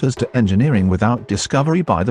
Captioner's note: none